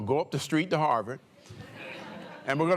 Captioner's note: laughter